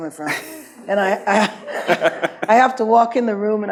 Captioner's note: laughs